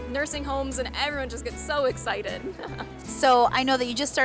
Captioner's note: laughing